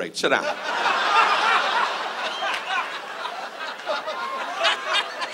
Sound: audience laughs

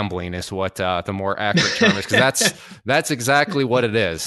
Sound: laughs

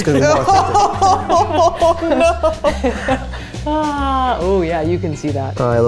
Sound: laughing

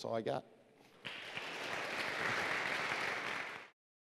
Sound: applause

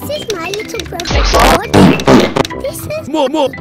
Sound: Satan Fart Noises

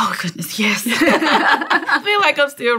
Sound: laughter

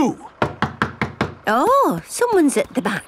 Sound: knocking at door

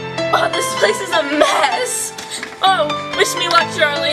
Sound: bright piano music; gasps

